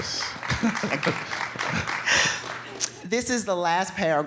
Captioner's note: audience clapping